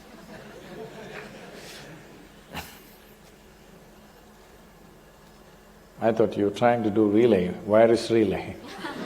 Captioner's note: laughter